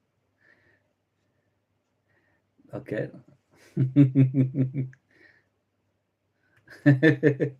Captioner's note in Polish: śmiech